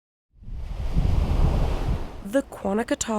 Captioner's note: water rambling